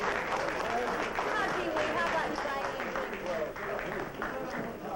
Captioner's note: applause; chatter